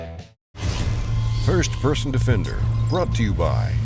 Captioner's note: voiceover